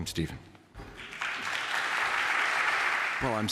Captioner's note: applause